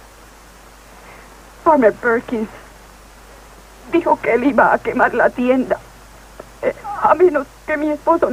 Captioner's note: voice breaking